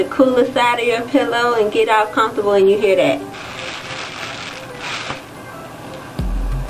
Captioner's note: crunch sound